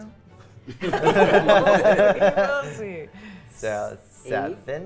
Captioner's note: players laughing